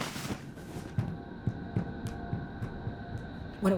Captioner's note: footsteps thudding